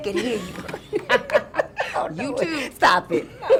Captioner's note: both laughing